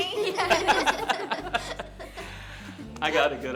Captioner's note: laughing